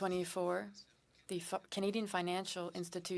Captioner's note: speaking French